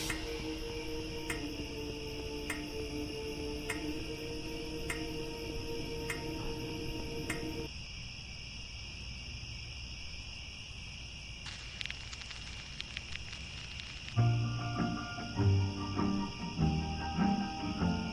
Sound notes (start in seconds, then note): 7.9 crickets; 11.4 needle on record